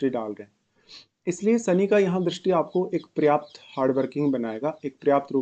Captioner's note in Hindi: नाक से की जाने वाली आवाज़